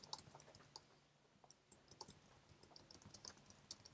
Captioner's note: keyboard clicking